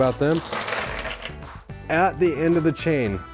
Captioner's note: chain clinking